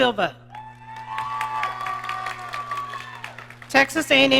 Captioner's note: audience cheering